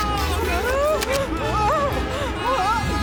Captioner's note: yelling